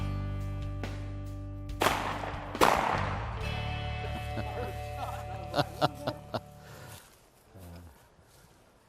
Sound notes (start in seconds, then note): 1.8 booming